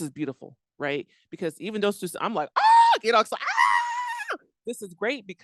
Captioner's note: screams